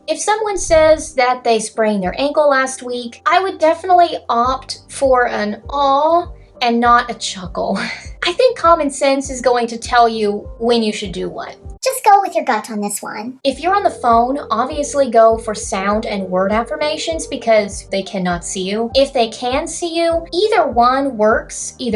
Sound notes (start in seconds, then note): 11.8 high-pitched voice